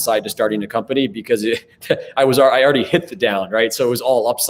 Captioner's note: chuckles